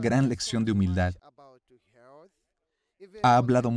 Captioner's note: Hablando idioma extranjero